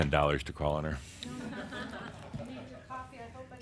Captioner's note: more chuckles; Adamus chuckles and audience says “Ooh!!”